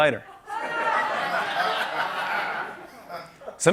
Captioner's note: laughter